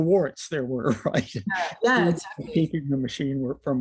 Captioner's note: laughter